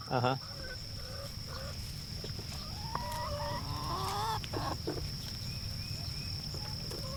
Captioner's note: crickets chirping; chickens clucking